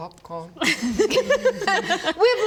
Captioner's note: giggles